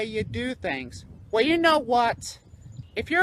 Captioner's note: normal voice